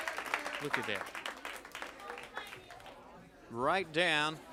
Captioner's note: crowd cheering